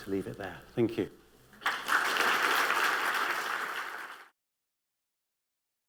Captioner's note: applause